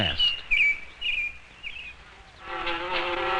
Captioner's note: bird chirping; wasps buzzing